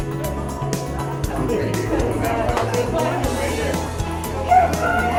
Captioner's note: crowd murmuring